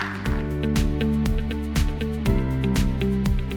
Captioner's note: cheers and applause